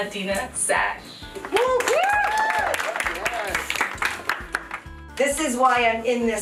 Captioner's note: applause, cheers